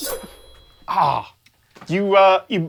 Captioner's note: groan